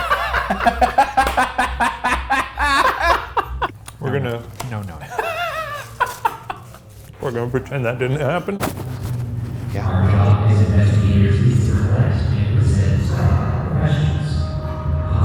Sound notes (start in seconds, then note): 0.0 laughing; 10.5 speaking over presentation